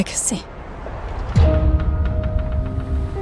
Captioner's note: door softly creaks